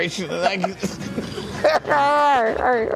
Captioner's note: laughing